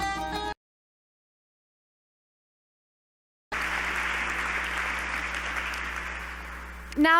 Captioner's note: applause